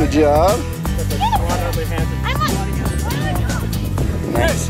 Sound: chattering

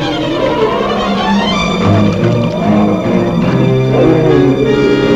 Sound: growling continues

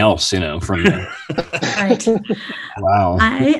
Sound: all laughing

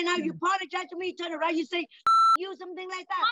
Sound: beep

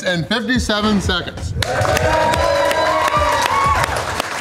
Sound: crowd cheering

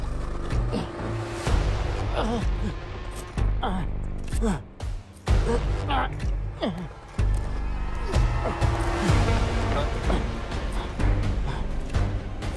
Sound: pilot struggles in pain

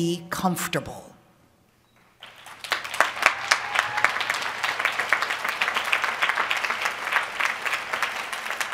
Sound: applause

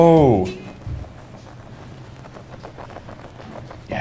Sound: scratching

